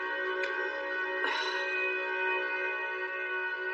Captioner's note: sighshs